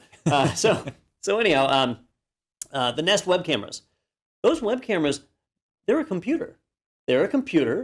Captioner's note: laugh